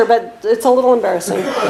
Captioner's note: laughter